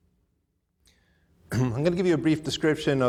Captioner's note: clears throat